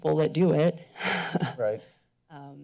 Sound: chuckles

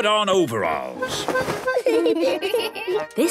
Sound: giggling

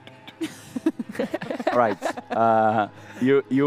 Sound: laughs

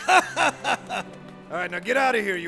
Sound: laughs

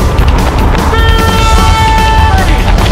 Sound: car honks

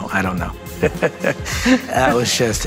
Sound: men chuckling

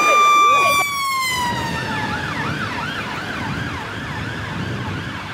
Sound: siren

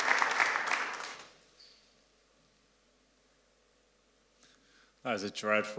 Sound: applause

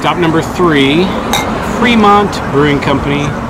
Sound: glasses clinking

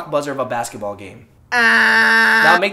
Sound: buzzer noise

